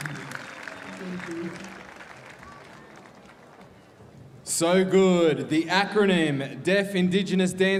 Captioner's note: applause